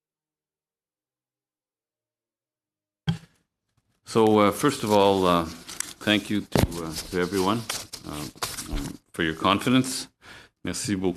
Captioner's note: speaking French